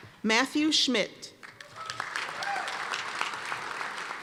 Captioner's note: applause